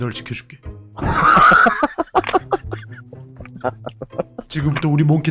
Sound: laughter

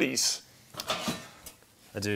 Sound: metallic clattering

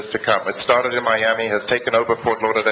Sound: alarm beeps

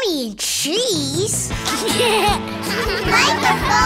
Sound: laughing

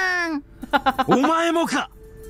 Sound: chuckles

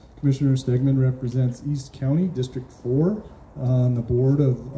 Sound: none

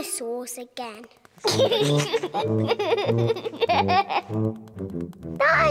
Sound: giggling

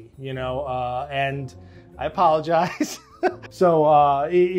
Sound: laughs

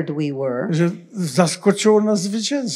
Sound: foreign language

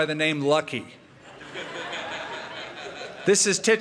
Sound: laughter

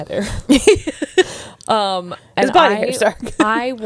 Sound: laughing

